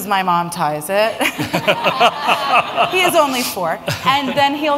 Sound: laughter

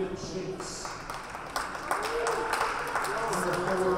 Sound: players applauding

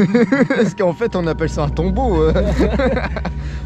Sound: laughs

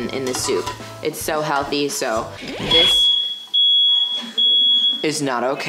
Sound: alarm going off

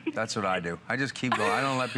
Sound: laughter

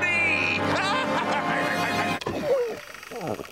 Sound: laughing

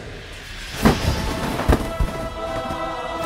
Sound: crash

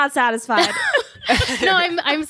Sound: laughter

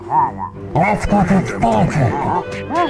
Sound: talk in gas mask language

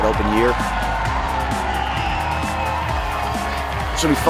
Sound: cheers

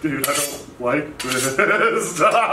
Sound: knives scratching

